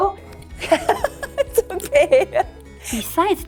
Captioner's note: laughing